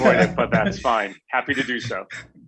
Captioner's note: laughs